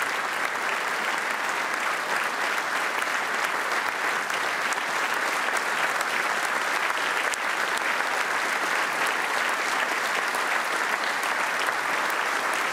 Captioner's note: applause